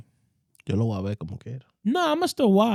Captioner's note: speaking In Foreign Language